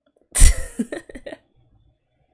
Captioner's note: laughs